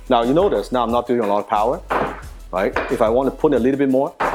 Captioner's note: wing Chun dummy clacks